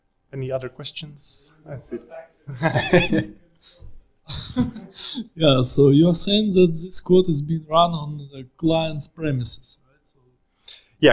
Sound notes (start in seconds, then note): 2.5 audience laughs